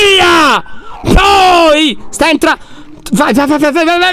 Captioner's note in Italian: urla